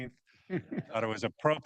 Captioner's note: laughs